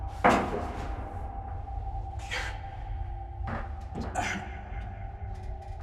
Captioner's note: Tyler grunts; tense music